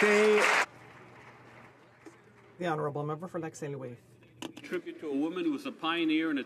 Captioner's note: applause